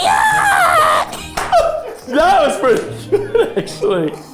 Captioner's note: group laughing